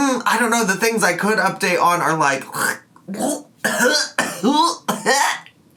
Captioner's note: gagging